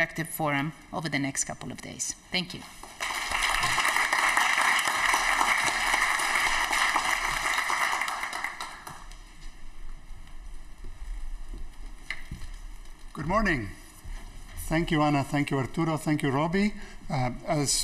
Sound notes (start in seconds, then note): 7.4 applause